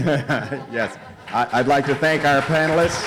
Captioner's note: audience laughs